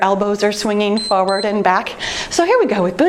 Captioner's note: timer beeps